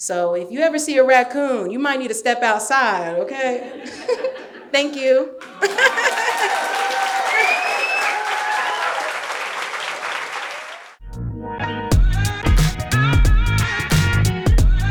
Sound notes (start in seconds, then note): 3.8 audience laughing; 3.8 laughs; 5.4 laughing; 5.4 audience cheering; 11.8 upbeat music